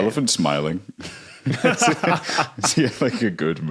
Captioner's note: laugh